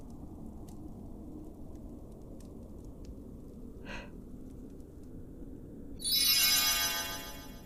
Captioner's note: magic sounds, fire goes out